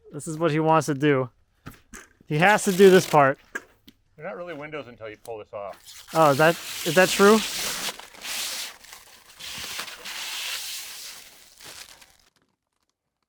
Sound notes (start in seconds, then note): 7.9 plastic ripping and crackling